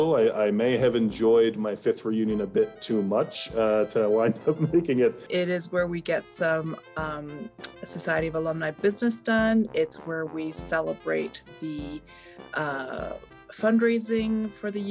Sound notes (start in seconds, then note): 3.6 laughs